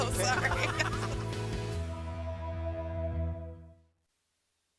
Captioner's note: laughter